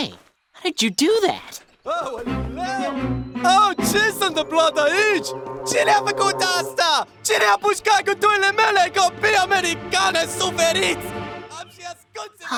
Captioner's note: non english